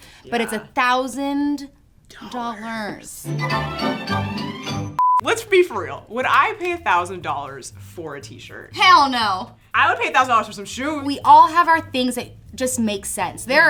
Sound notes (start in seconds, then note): 2.7 whispers; 3.2 fairytale music; 4.9 beep